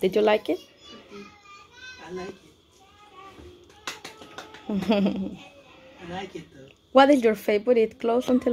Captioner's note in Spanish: aplausos